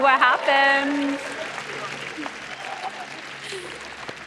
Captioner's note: applause